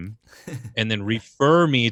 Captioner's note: laughs